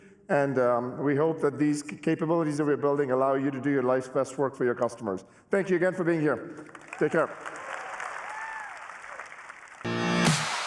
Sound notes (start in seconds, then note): 6.6 applause